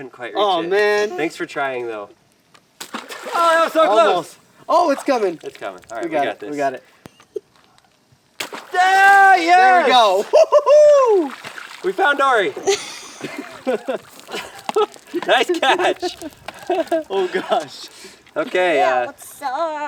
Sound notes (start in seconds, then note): 2.8 water splashing; 8.4 water splashing; 12.0 men laughing